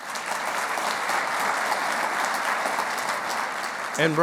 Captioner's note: clapping